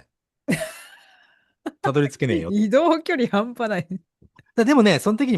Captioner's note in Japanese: 笑い